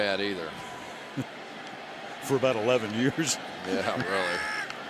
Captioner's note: chuckles